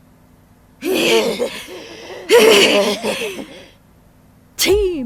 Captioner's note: wheeze